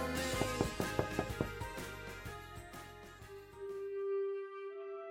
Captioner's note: Brett knocking